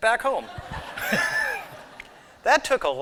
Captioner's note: laughter